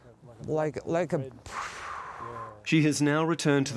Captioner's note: imitates whooshing